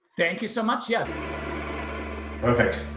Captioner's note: coffee machine whirring